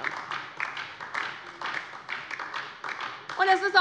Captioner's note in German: Beifall DIE LINKE